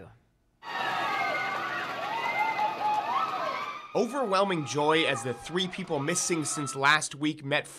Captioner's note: cheers